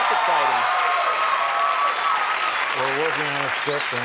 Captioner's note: audience applauding